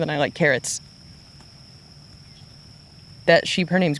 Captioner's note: crickets chirping